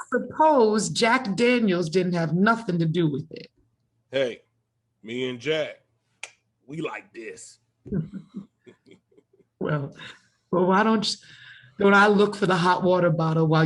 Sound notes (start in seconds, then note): 7.8 chuckles softly